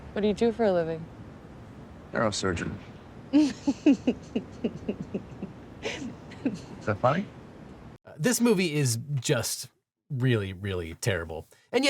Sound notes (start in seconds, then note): 3.4 Lily laughs